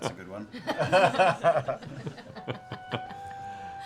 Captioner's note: laughter